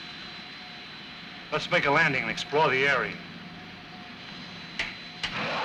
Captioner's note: switches clicking; machine whirring